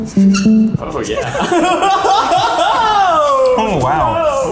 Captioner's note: laughter